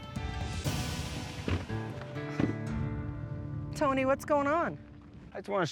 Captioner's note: truck doors close